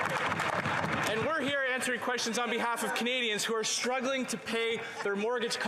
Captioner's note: applause